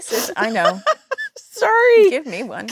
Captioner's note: Jennifer laughing